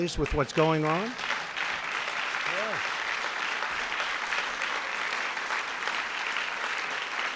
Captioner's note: applause